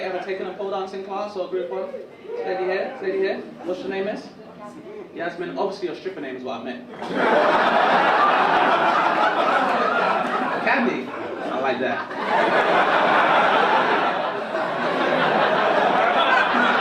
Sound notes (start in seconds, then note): 0.0 audience laugh; 1.7 women woop; 8.1 audience laugh; 13.8 audience laugh